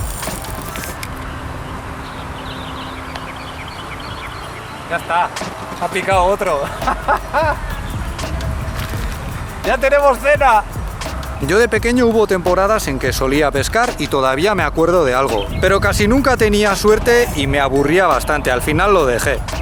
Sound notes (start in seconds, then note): 6.1 jajajjaja